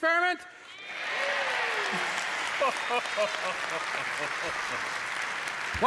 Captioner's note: cheers and applause